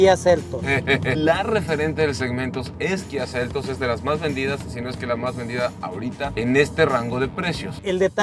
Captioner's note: laughter